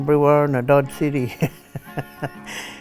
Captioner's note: laughing